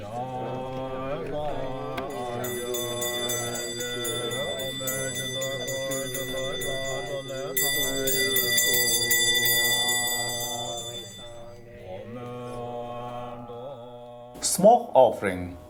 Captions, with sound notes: [Bell Chiming] Smoke offering.